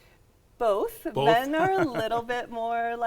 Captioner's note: chuckles